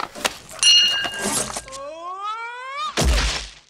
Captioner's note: bell dings